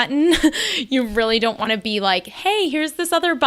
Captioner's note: laughs